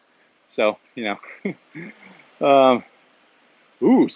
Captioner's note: chuckles